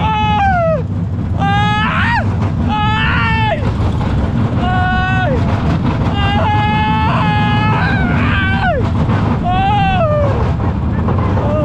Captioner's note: screaming